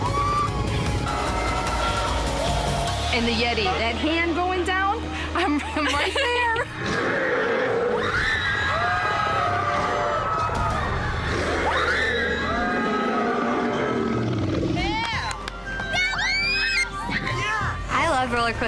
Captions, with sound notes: (coaster rumbling) - And the Yeti, that hand going down... I'm, I'm right there. (laughs) (growls and screams) - Yeah! - That was awesome. - Yeah!